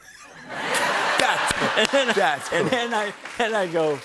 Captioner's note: laughter